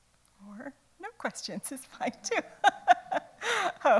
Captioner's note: laughs